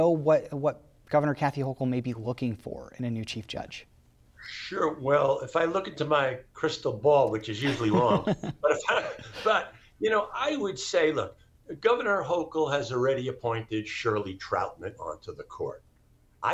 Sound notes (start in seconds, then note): 7.6 laughs